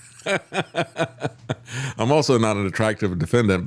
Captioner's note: laughs